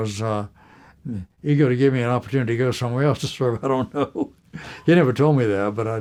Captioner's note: laughter